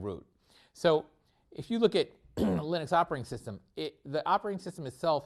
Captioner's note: cough